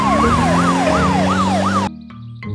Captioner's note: siren wailing